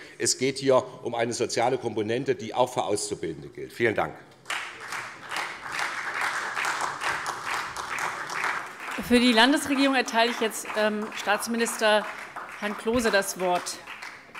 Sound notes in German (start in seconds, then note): 4.4 Beifall SPD und DIE LINKE